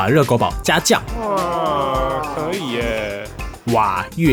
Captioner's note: original audio: exclamations from the audience